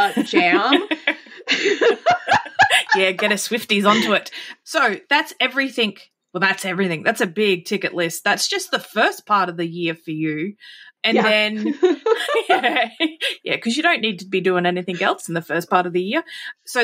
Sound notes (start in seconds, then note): 0.0 laughing; 11.1 laughing